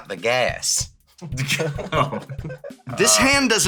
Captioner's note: laugh